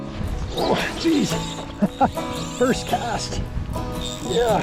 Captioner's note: laughter